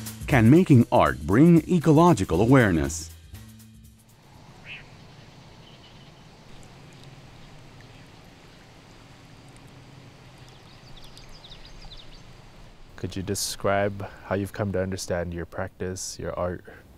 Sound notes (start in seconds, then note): 4.1 wind blowing, birds chirping, water gurgling